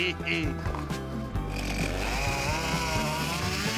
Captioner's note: saw buzzing